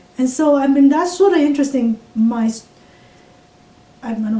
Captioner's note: none